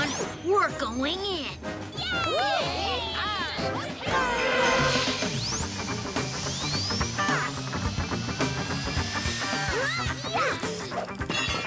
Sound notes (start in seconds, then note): 1.9 children cheering; 3.5 upbeat music